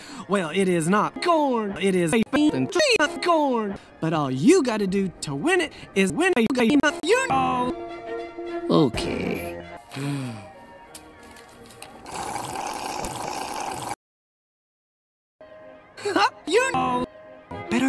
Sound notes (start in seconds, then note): 9.9 sigh; 12.0 sip